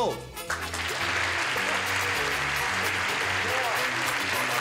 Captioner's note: applause